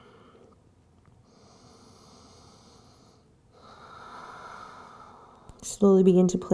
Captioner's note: exhaling; inhaling and exhaling